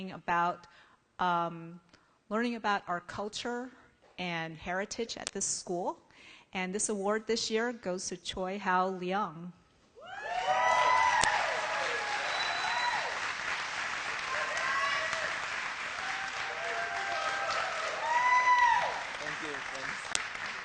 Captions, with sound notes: ABOUT LEARNING ABOUT OUR CULTURE AND HERITAGE AT THIS SCHOOL. AND, THIS AWARD THIS YEAR GOES TO CHOI HOU LEONG. [ APPLAUSE ]